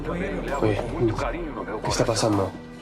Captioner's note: in Spanish